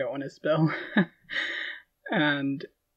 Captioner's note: laughing